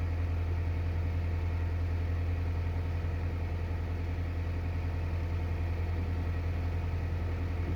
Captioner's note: purring engine sound